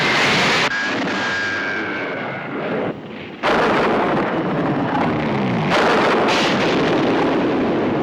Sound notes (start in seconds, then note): 3.4 booming